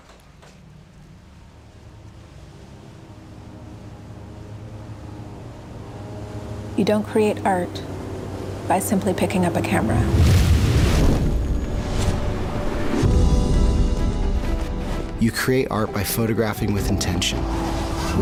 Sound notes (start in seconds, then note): 0.2 engine murmurs; 2.7 engine buzzes; 11.4 intimidating music; 13.0 epic music